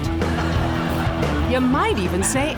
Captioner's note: audience laughs